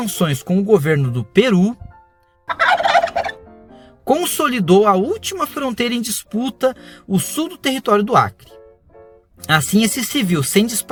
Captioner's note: turkey gobbles